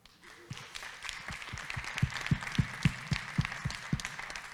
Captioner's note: audience claps